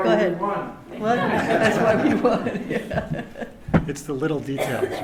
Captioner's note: laughter